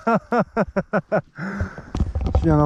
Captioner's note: laughs